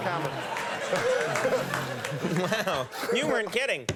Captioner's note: audience claps